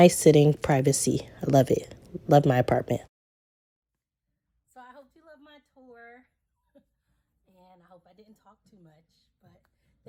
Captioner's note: laughs